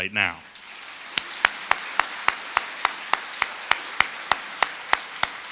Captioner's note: audience applauding